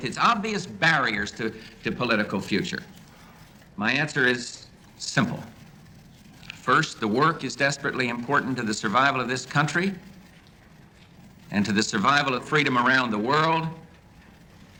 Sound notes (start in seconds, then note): none